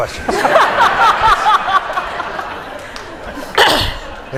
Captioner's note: laughter